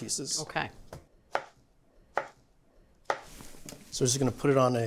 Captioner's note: knife chopping